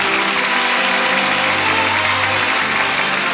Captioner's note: applause